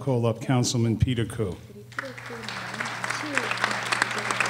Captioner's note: applause